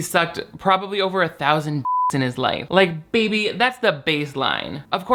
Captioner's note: beep